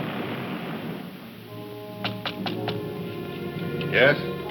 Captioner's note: gentle music; light knocking